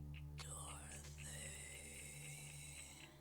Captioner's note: ghostly Whisper